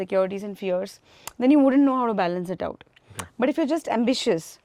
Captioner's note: smacks lips